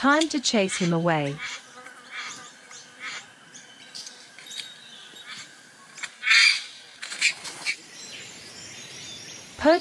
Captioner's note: birds sounds and chirps